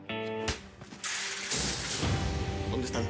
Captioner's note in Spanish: golpes